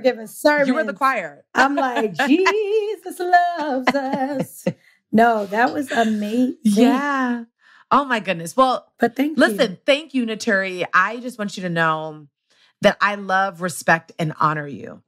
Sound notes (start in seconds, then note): 1.6 laughs; 2.8 singing